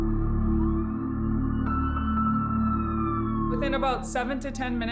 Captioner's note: sirens blare